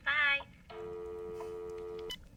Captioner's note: dial tone; phone beeps